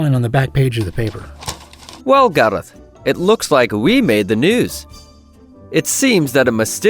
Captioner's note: paper rustling